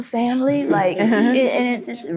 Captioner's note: group laughing